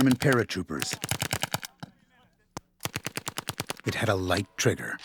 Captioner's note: gunfire